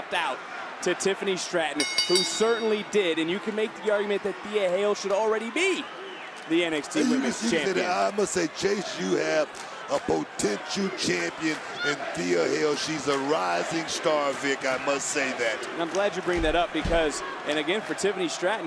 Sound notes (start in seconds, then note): 1.8 bell rings